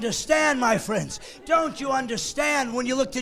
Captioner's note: laughing